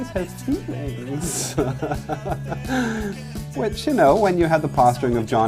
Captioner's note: laughs